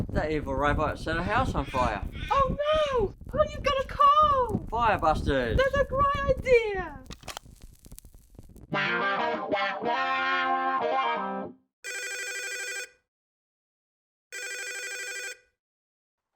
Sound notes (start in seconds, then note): 8.9 upbeat music; 11.7 phone ringing